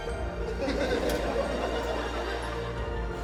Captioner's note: majestic music; laughter